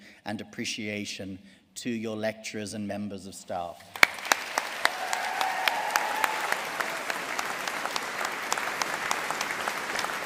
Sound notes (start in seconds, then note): 3.9 audience cheering and applauding